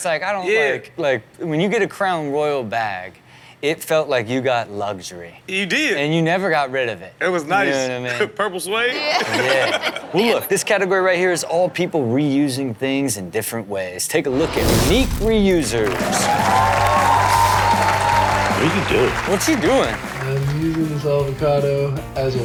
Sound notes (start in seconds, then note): 9.0 laughs; 15.4 audience cheers